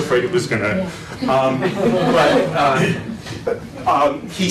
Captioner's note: laughter